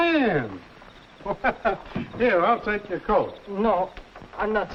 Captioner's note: chuckles